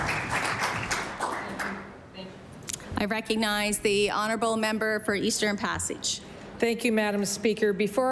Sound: applause

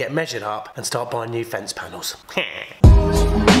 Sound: quack; upbeat electronic music

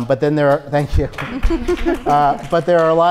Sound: scattered applause

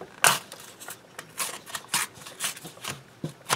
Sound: tearing sounds

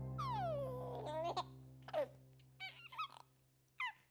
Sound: baby giggling

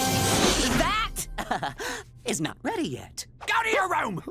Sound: chuckles

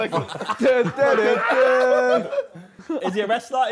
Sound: Sidemen humming John Cena musical theme

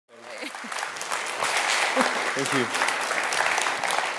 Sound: applause

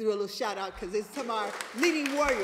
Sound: applause

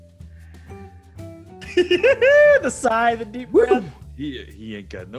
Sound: laugh

